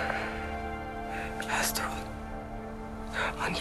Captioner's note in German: geflüstert